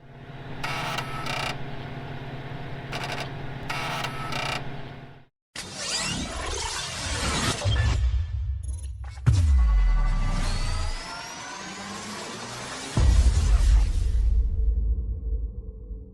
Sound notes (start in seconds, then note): 0.5 logo creaking; 6.0 logo electronically buzzing